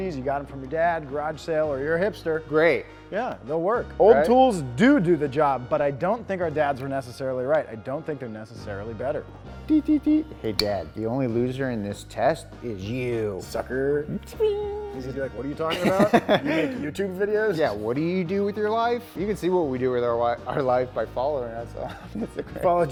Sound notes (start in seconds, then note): 9.6 mimics machine beep